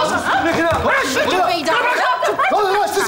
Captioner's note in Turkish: bağrışmalar